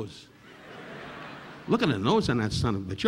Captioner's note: audience laughing